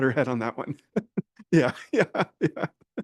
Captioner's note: chuckles